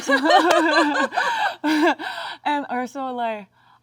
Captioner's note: both laugh